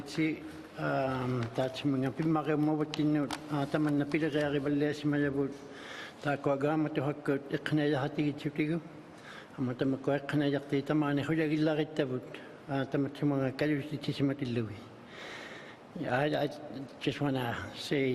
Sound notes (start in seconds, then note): 2.1 speaking alternate language